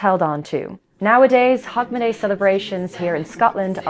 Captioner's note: distant voices counting down